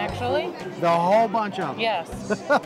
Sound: laughs

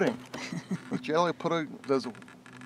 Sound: woman laughs

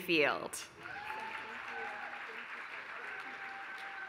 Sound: applause

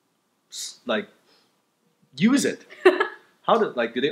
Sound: laughter

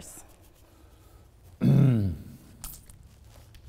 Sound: clears throat

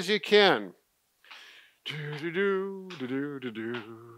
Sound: humming

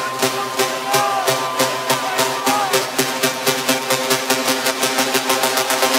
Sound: techno beeping gradually speeding up

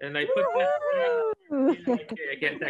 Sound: cheering

